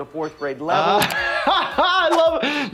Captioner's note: laughs